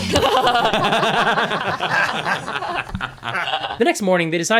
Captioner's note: all laugh